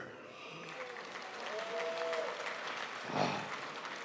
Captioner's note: crowd applauds